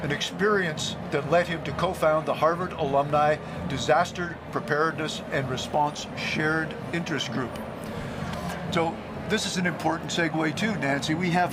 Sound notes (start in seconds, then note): none